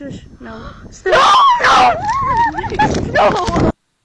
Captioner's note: kid screaming in fear